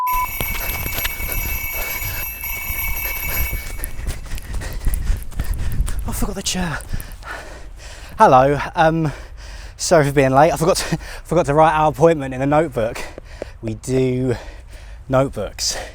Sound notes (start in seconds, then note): 0.0 phone ringing desperately quick; 3.6 sounds of running getting closer